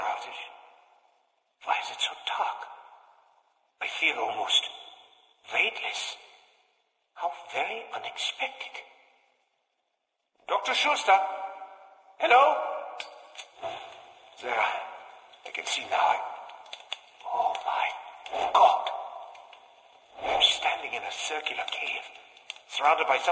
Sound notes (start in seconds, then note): 13.0 clicking can be heard